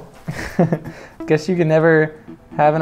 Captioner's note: chuckles